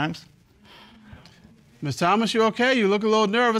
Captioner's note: exhales